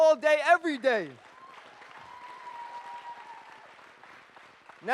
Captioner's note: audience cheers and applauds